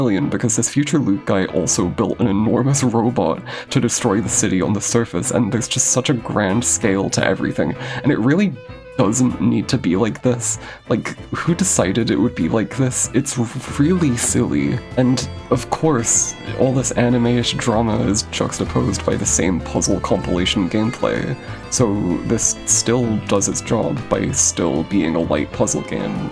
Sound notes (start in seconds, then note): 3.4 defeated inhale